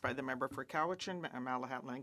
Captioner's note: speaking French